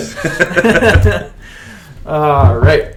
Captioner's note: laughter